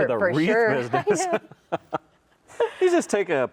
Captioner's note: both laugh